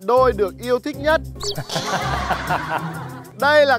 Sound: suddenly laughing

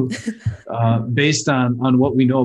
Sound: laughing

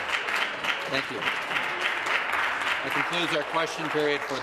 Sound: applause

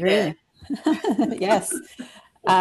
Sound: chuckles

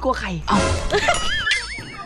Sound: chuckles

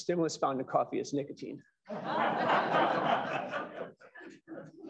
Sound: laughter

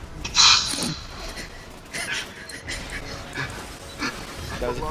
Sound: both chuckling

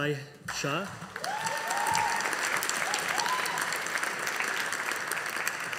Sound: audience applauding

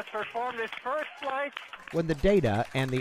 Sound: cheering and applause

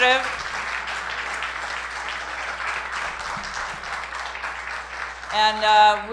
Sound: applause

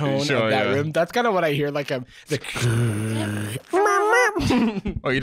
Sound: crackling

